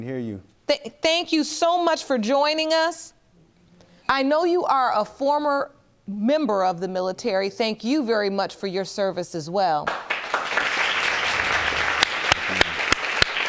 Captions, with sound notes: I can hear you. Thank you so much for joining us. I know you are a former member of the military, thank you very much for your service as well. (AUDIENCE CLAPS)